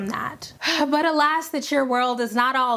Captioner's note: heavily sighing